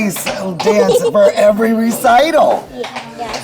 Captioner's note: giggling